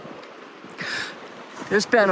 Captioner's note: gasping